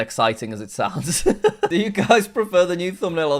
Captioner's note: laughs